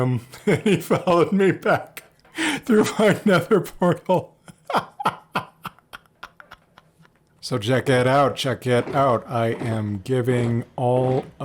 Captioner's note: laughs